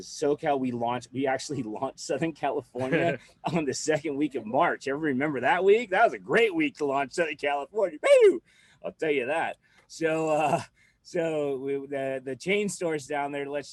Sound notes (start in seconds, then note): 10.0 chuckles